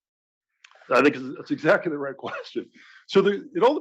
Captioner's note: laugh